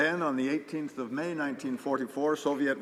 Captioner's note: speaking Alternate Language